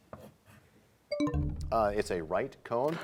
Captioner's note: bell chimes, time expires